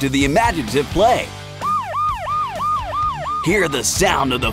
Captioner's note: police siren